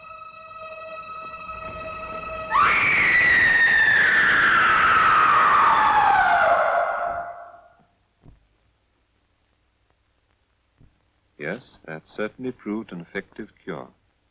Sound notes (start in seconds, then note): 2.5 Pauline screaming